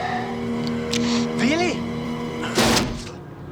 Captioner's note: speaking german